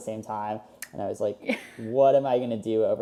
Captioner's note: laughs